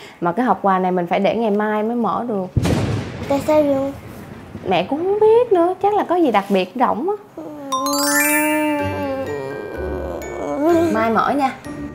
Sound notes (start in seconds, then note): 8.8 groaning in disappointment